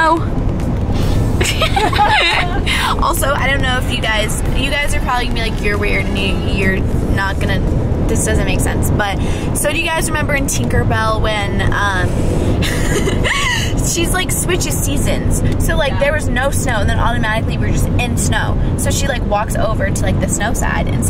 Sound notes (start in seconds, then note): 1.4 laughing